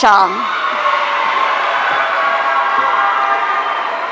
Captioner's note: audience cheering